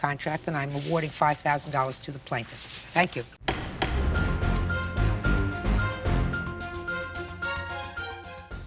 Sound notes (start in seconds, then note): 3.4 judge bangs gavel; 3.5 rousing music